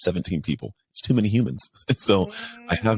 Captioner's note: laughs